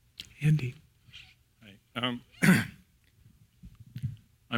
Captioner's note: cough